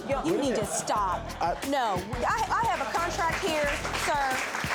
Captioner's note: audience applauds